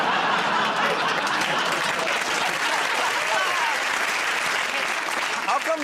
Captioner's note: laughter; applause